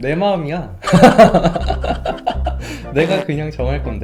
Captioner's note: laughs